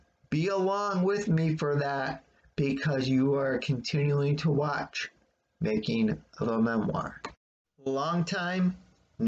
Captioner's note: click